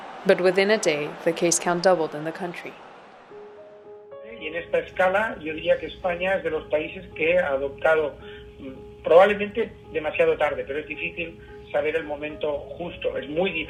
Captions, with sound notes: But within a day the case count doubled in the country. [man speaking a foreign language]